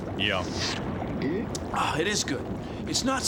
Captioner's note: gulps